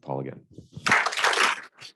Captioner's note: audience clapping